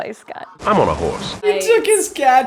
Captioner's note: audio from Old Spice commercial